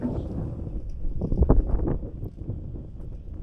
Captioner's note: wind blowing